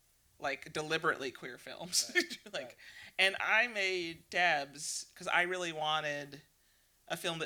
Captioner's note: laughs